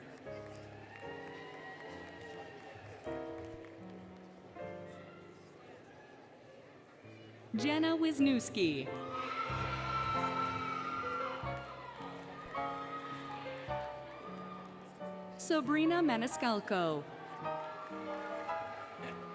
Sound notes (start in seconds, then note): 0.0 applause, Cheering, Music; 8.9 applause, Cheering, Music; 16.9 applause, Cheering, Music